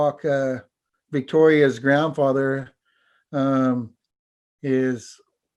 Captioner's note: foreign language